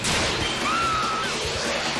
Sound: screams in Rocket League

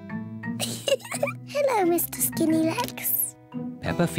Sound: laughs

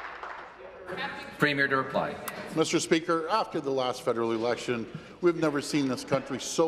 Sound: applause

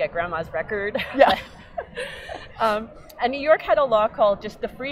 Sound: laughing

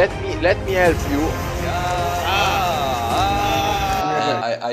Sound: aaaaaahhh

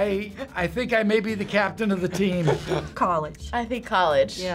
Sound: laughs

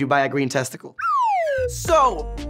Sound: slide whistle

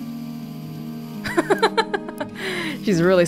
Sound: chuckles

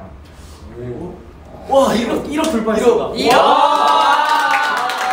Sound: clapping

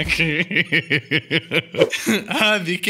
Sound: laughter

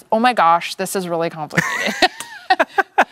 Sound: both laugh

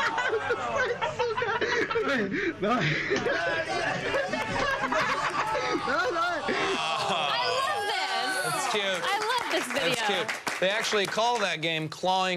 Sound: laughter

